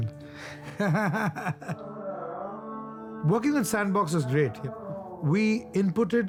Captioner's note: laughing